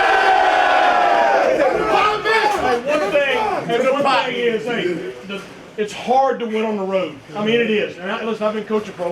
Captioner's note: cheers and applause